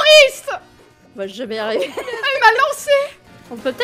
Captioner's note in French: rire